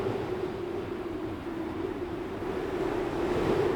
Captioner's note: wind Howling